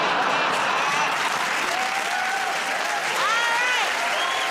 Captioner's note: cheers and applause